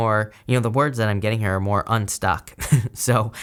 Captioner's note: chuckles